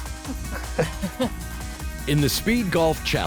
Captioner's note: lalaugughthterer